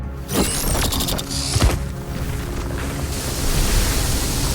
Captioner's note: collapsing sounds